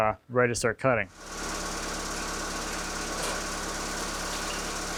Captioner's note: machine whirring